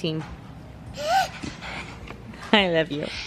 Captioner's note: coos